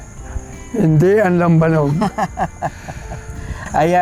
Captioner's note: laughs